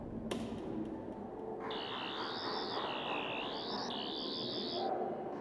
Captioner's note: Sonic screwdriver buzzing